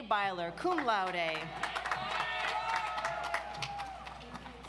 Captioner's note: audience applauds